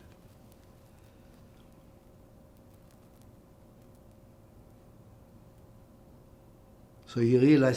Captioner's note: pauses 6 seconds